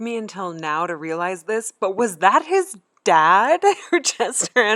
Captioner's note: laughing